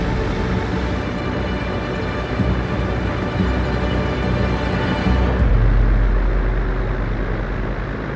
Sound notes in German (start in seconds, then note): 1.4 Angespannte Musik; 4.7 Motorenrattern